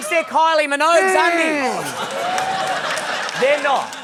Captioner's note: laughter